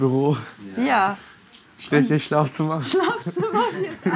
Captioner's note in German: lacht